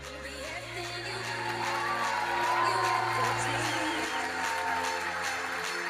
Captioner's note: audience cheering and applauding